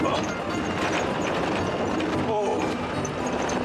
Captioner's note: rumble, rumble